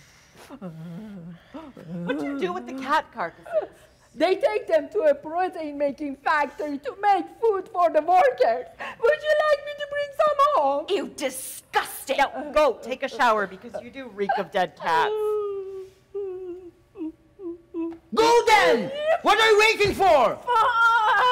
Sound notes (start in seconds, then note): 0.4 Sharik softly groaning; 15.5 Sharik softly whimpering